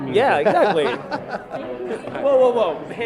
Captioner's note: laughs